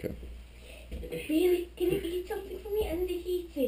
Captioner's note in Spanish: Strange voz